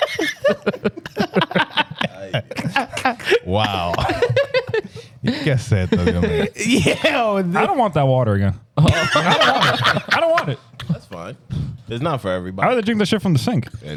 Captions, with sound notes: Wow. I don't want that water again. (Laughing) I don't want it. That's fine. It's not for everybody. I'd rather drink the shit from the sink.